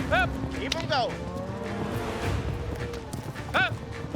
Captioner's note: mooing